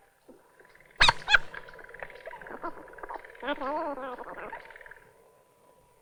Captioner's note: tape fast forwarding